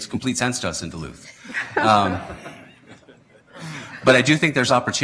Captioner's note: laughter